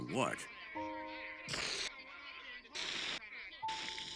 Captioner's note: static